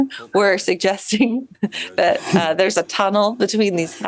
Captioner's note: chuckles